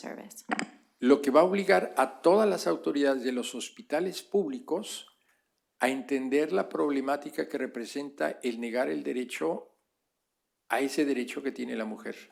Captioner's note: speaking spanish